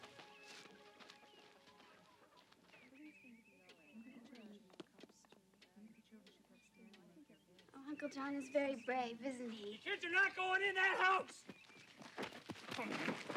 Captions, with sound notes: (people murmuring) - Uncle John is very brave, isn't he? - You kids are not goin' in that house!